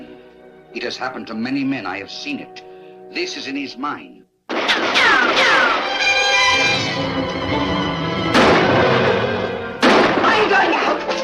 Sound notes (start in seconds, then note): 4.5 gun fires; 4.6 bullets ricochet; 5.0 dramatic orchestral music; 7.9 gun fires